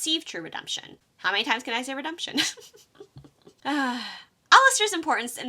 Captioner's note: laughs